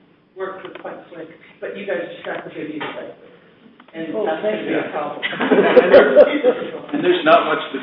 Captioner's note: audience laughter